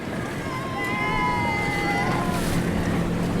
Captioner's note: cheers